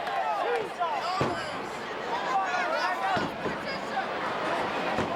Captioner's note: crowd chattering